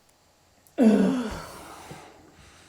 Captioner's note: groan